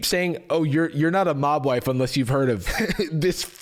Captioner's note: chuckles